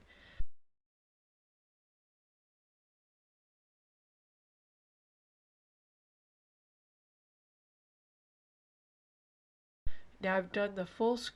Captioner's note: silence